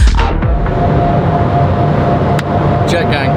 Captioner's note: jet engines roar